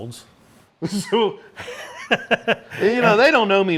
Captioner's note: laughs